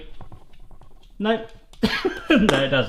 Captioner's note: laughs